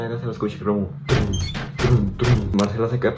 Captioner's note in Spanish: Suena puerta de metal